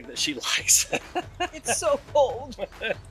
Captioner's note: laughs